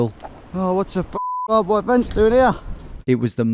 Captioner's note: beep